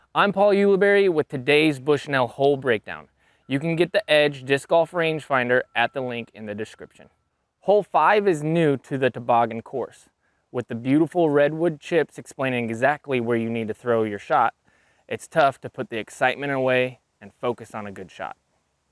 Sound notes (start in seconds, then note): none